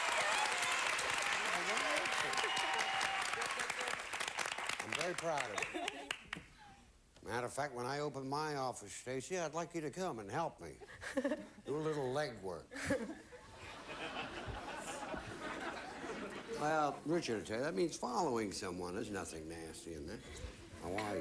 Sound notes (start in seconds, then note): 0.0 audience applauding; 13.4 audience laughing